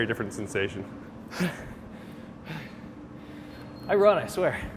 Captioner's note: heavily breathing